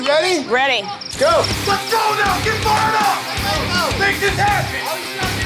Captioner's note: crowd cheering